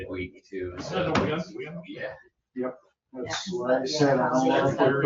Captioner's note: overlapping chatter